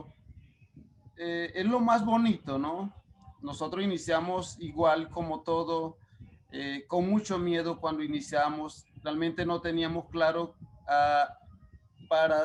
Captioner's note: speaking Spanish